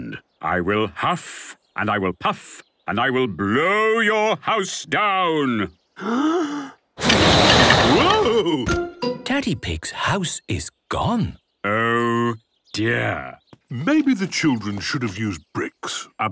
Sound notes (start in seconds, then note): 6.0 inhaling deeply; 7.6 blowing